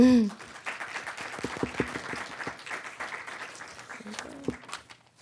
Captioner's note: audience clapping